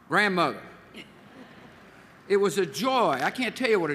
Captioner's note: laughter